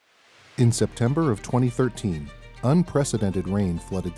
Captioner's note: sound of rushing water